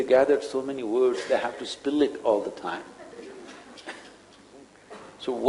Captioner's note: laughs